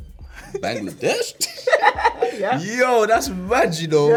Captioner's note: laughing